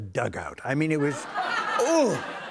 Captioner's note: laughter